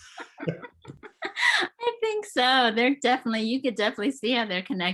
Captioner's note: laughs